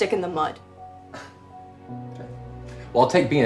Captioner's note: scoffs